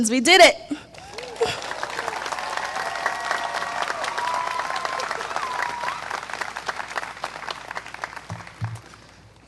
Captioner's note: applause